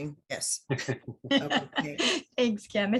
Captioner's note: group laughs